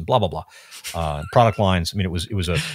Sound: laughing

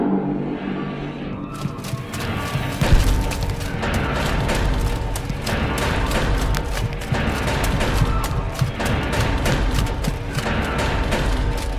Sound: hurried clanking of armor plates, oppressive drumming

